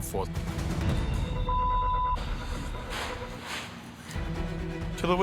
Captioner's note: exhales forcefully